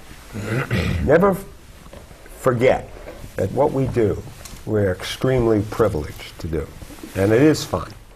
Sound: clears throat

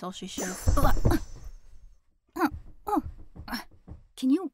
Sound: Talia's teleport sound; both tumble and muffled sounds

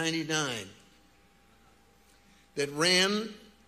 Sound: none

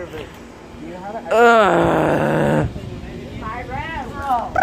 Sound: groans

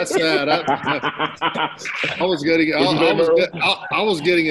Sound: laughter

